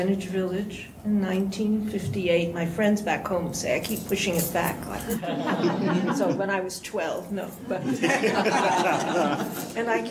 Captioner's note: laughter